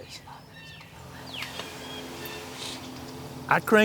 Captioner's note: whispering